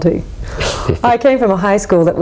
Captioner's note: chuckling